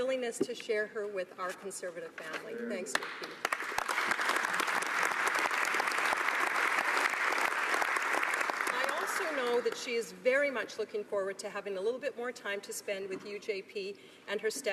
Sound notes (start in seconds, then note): 6.7 applause